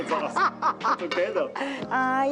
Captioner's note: laughs